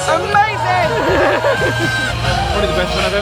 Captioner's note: laughing